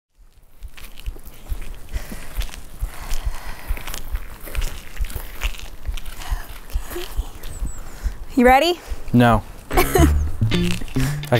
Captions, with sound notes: (footsteps treading) (breathing deeply) - Okay, you ready? - No. (upbeat music)